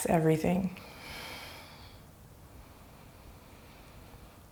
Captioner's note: deep breaths